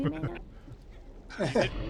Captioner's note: laughs